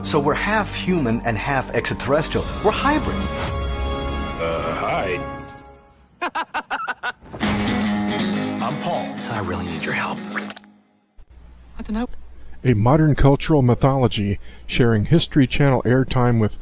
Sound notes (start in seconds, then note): 3.8 dramatic music; 6.1 man laughing; 7.4 upbeat music